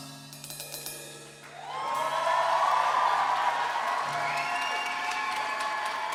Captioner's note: cheering and applause